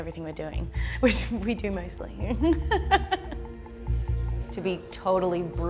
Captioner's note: laughs